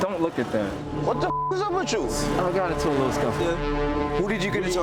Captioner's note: beeps